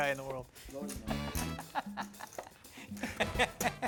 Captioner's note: laughter